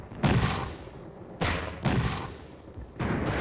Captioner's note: booming